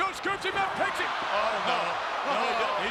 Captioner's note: audience cheers